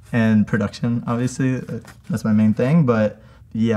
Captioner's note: none